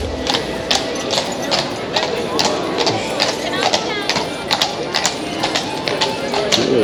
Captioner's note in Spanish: sonido de trote de caballos sobre una calle de piedra